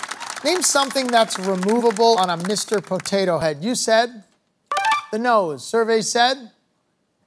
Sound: cheering, applause

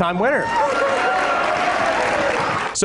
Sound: applause

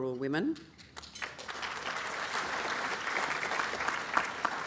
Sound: applause

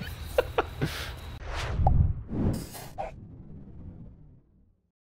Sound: chuckles

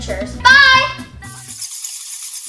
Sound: bats squeak

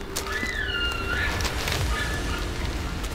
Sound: caller bugling

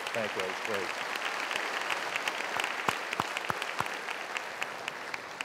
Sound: applause

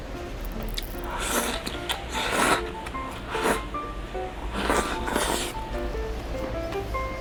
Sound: slurping noodles X 16

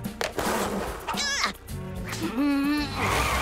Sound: grunts, growls

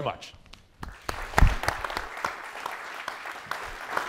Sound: audience applauds

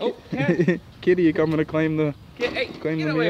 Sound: chuckling

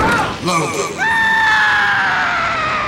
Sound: screaming

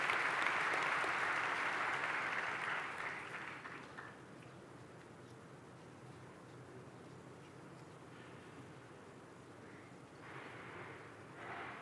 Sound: cheers and applause

